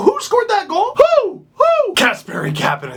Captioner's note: owl hooting noises